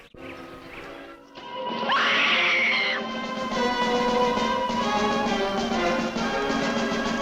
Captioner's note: dramatic music; Donna screaming